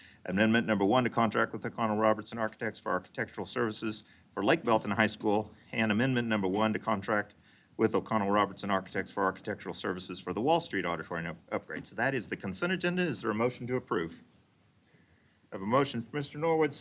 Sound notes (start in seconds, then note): none